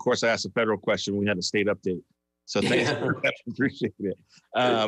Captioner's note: laughs